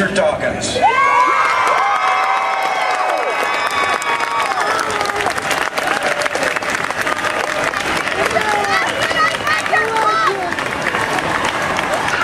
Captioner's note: crowd applause